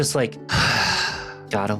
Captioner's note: sighs